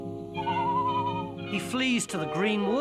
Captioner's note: man whistling